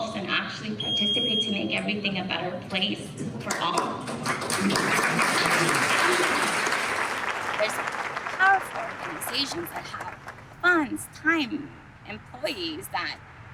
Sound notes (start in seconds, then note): 4.0 audience applauds